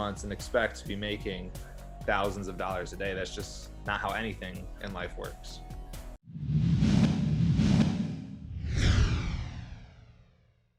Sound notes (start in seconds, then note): 6.3 screen whooshing